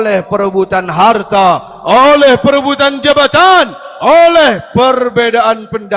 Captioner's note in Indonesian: berteriak